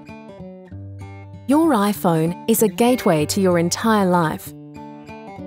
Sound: voiceover

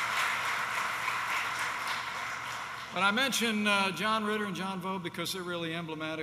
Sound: applause

